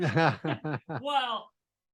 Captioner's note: laughing